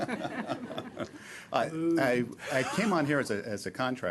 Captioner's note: laughter